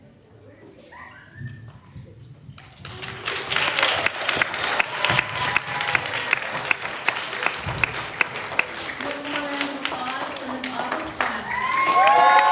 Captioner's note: applause